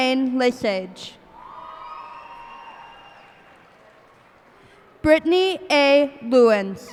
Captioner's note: cheers and applause